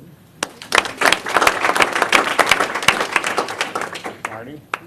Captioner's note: applause